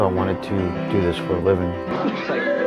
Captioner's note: laughter